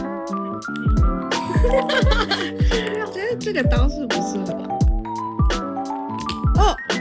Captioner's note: laughs